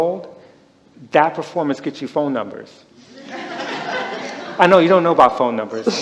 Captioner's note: laughter